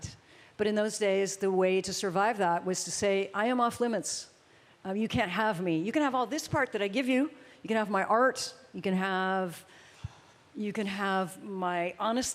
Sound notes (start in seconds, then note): none